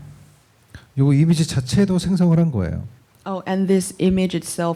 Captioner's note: speaking korean